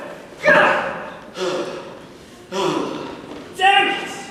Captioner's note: adachi grunts; heavily breathes